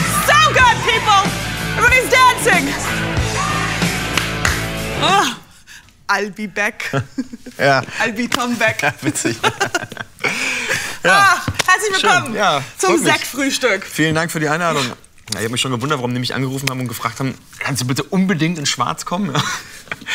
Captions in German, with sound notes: So good people. I'm always dancing. I'll be beck! Ja. I'll be Tom Beck. Ja. I'll be Tom Beck. Witzig [lacht]. Ach, herzlich Willkommen Ja freut mich. Ach, herzlich Willkommen Ja freut mich. Zum Sektfrühstück. Ja freut mich. Zum Sektfrühstück. Vielen Dank für die Einladung. Ja ich hab mich schon gewundert, warum die mich angerufen haben und gefragt haben: „Kannst du bitte unbedingt in schwarz kommen?"